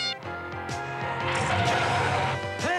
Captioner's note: screech